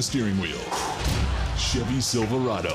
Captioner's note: breathes deeply